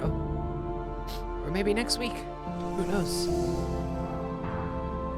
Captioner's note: sniffs